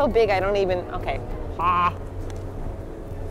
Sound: wide mouth opening noise

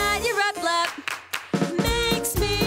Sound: clap clap clap

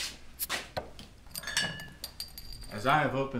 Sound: clinking glasses

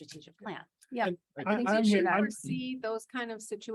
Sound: indistinct conversation

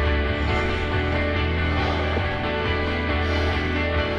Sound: panting

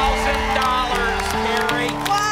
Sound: applause and cheering

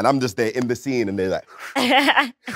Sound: exhales; Letitia laughs

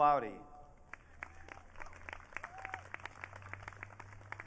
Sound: audience cheering

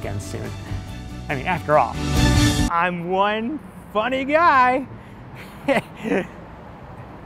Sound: laughs

